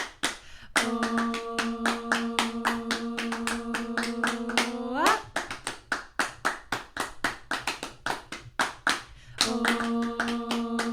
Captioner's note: clapping and humming